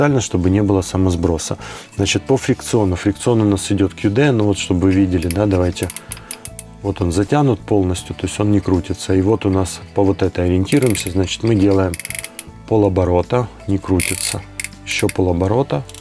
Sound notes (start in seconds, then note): 11.4 spool start to spin